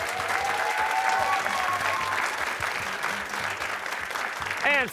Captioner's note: cheers and applause